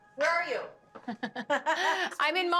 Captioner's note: laughs